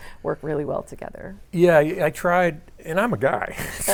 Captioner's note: laughs